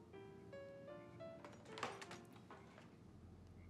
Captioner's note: clattering